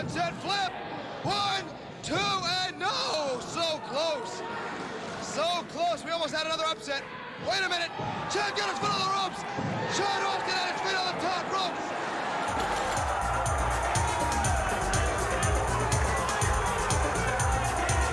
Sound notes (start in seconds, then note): 14.2 cheers and applause